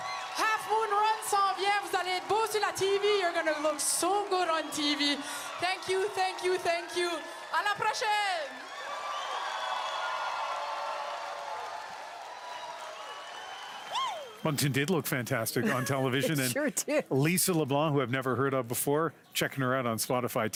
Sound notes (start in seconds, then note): 1.3 speaking French; 11.1 speaking French; 12.3 cheering and Applause